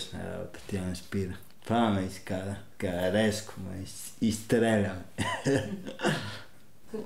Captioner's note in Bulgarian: смее се